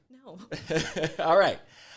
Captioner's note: laughs